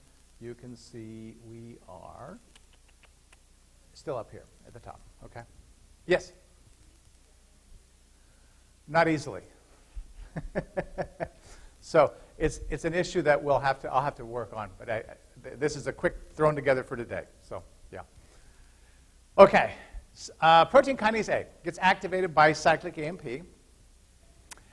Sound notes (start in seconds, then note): 10.2 laughter